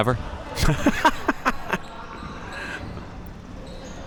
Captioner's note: laughing